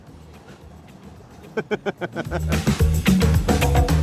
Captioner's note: laughs; funky music